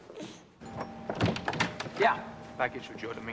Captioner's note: rings doorbell